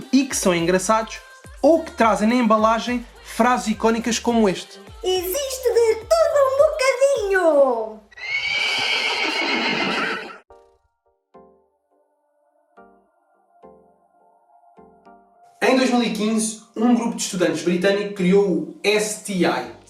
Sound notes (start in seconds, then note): 8.1 neighing sounds